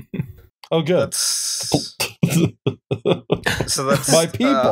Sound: laughter

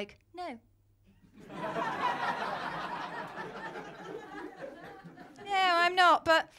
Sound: laughter

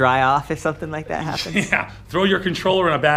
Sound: chuckles

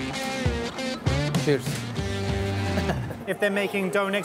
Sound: chuckles

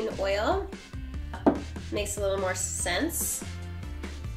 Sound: taps table

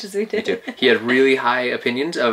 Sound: laughs

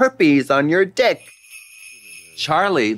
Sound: sleigh bells jingling

